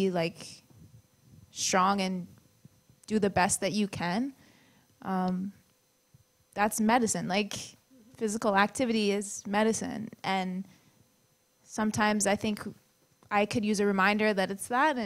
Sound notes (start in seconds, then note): none